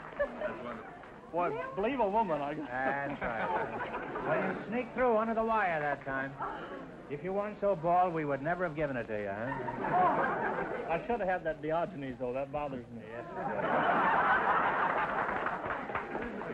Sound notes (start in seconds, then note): 9.4 audience laughter; 13.2 audience laughter